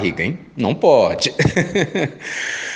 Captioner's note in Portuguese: Risos